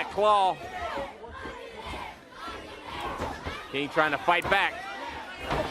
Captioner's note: crowd cheering